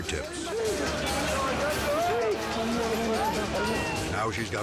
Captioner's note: group speaking in foreign language